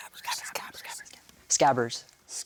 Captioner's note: whispers